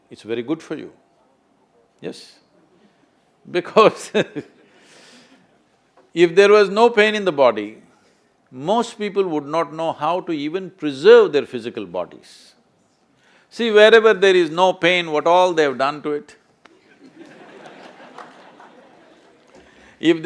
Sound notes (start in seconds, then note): 4.5 laughs; 16.7 laughter